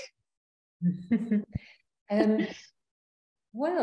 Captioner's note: chuckling